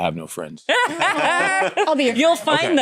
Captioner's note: laughter